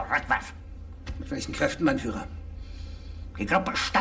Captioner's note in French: parlant un anglais simple; parlant un anglais clair